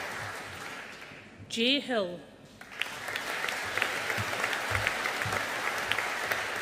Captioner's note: audience applauding